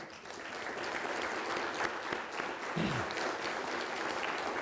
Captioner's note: people applauding